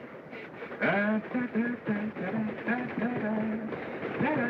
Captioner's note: humming